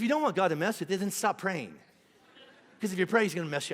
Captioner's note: congregation laughing